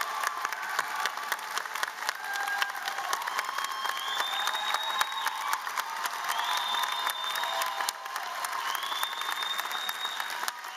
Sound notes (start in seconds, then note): 5.4 applause